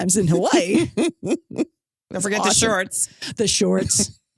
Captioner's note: laughs